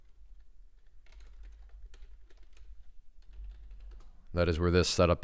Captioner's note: keyboard clicking